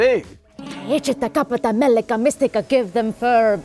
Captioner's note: chanting